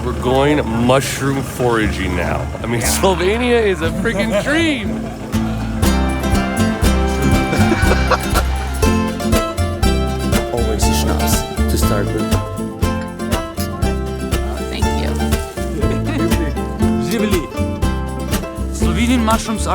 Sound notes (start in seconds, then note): 6.0 cheerful music; 7.4 laughing; 13.6 glasses clinking; 14.4 cheerful music